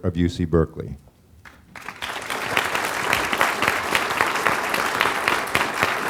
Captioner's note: applause